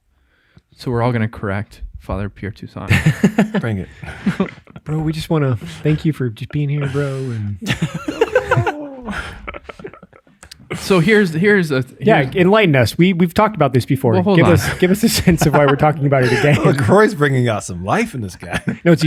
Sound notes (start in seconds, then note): 8.3 innocent laughing